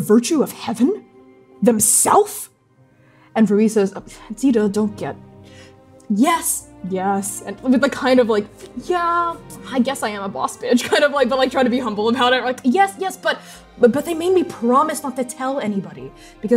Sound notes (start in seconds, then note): 3.9 humble stammering